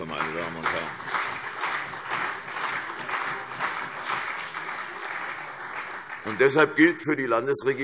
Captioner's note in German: Beifall CDU und BÜNDNIS 90/DIE GRÜNEN